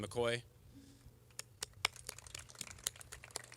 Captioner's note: applause